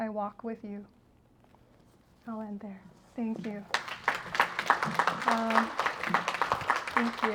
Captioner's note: applause